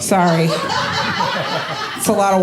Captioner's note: audience laughing